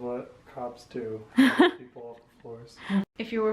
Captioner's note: laughter